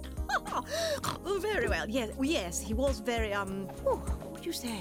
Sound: chuckling, snorting

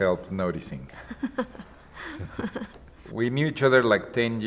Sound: both laugh

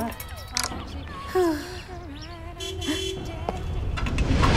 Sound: gasps; horn honking

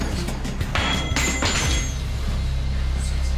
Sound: clang

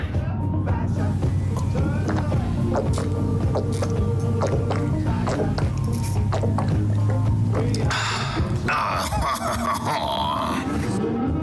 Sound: gulp

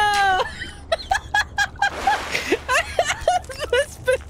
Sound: laughter

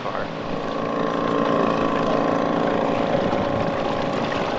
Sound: boat engine roaring

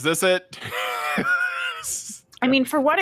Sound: laughs

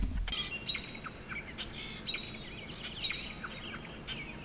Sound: birds chirping

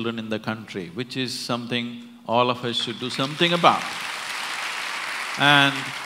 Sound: applause

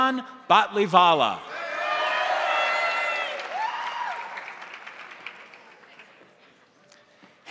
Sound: crowd cheering; crowd applauding

